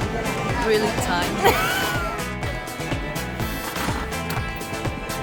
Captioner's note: gasps in disgust